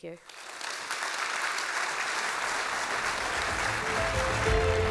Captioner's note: audience Clapping